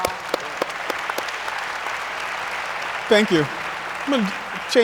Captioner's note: audience applauds